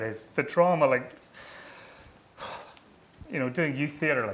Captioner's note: sighing